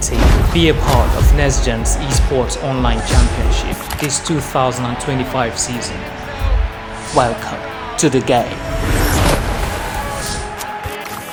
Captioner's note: sound effects